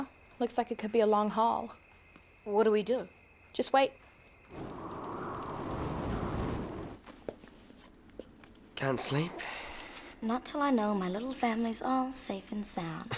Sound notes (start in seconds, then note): 4.4 wind blowing